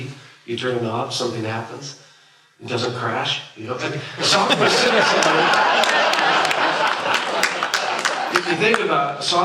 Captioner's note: laughter